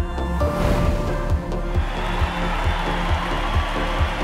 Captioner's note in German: Applaus und Jubeln